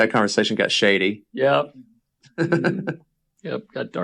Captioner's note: laughs